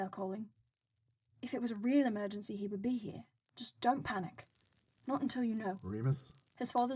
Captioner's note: fire crackles